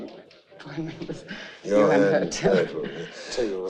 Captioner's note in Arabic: يضحك